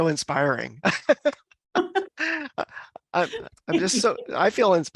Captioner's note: both laugh